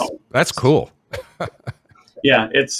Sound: laughs

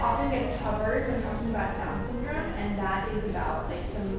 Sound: none

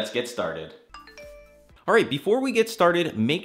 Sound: notification Sound

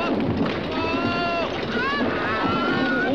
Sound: toys shouting

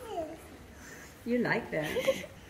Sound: babbles

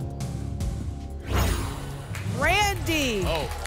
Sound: whoosh

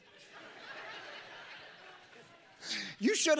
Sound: congregation laughing

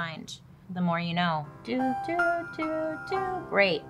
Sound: imitates "The More You Know" theme

